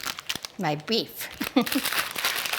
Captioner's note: laughs